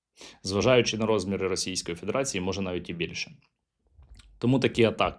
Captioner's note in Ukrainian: сопіння